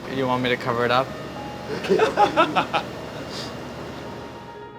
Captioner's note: laughs